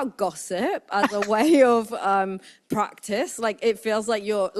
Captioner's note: laughs